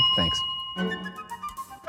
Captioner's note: bell rings; playful music